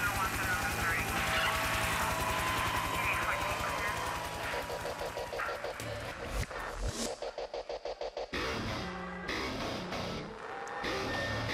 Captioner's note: cheers and applause